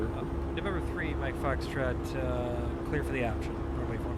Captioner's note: radio chatter